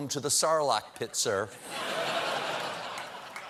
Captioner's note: laughter